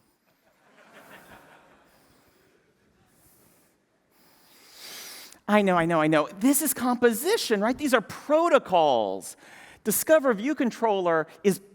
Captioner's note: laughter